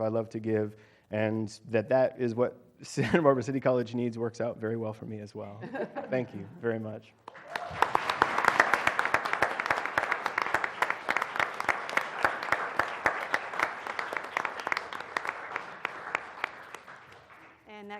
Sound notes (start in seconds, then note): 5.5 laugh; 7.9 applause